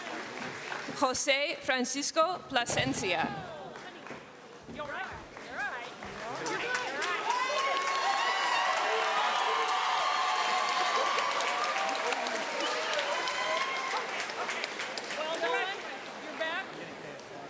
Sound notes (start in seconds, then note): 0.0 applause; 1.1 cheering; 2.3 applause